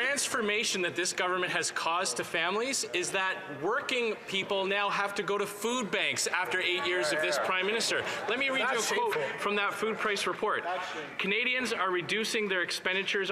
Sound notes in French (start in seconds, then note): 6.1 voix de l'interprète